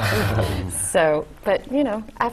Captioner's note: laugh